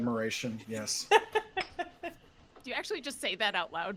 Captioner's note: laughing